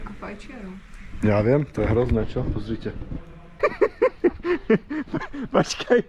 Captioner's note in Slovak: smiech